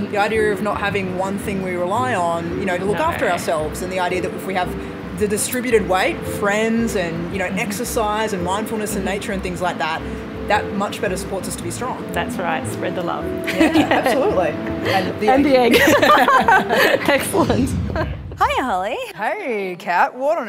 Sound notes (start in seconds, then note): 15.6 laughter